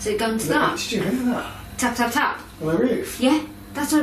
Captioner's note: none